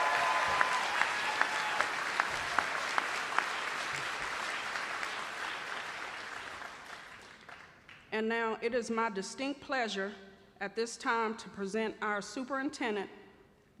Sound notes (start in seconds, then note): 2.8 cheering and applause